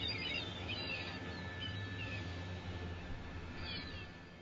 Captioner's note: birds chirping